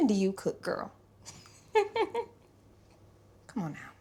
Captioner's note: laughing